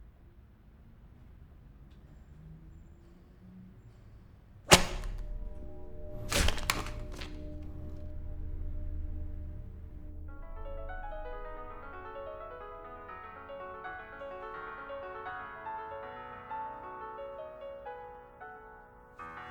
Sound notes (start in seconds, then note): 4.7 paper cracks; 10.6 lively piano music